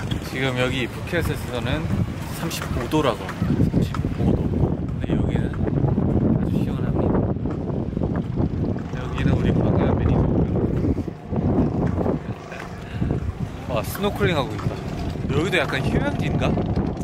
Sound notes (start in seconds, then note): 4.7 the wind taking over the audio